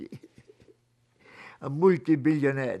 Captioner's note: laughing